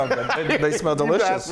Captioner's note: laugh